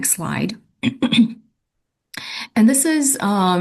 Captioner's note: clears throat